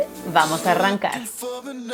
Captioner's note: upbeat music; speaks in foreign language